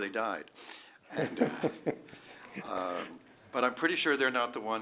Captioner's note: laughter